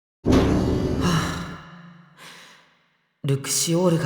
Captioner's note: sigh